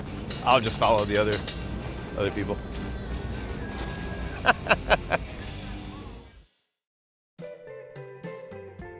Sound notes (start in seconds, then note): 4.3 laughing; 7.1 country music